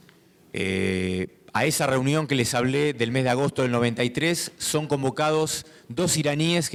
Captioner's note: speaking in foreign language